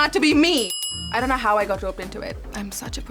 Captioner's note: bell ringing